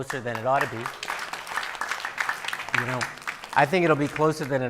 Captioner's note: audience applauding